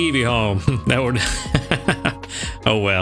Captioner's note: laughs